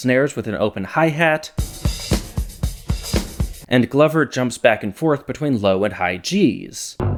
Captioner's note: bang